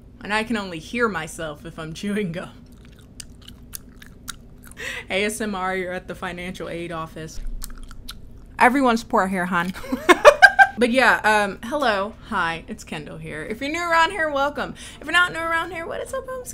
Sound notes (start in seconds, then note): 2.6 chews; 7.4 chews; 10.2 laughs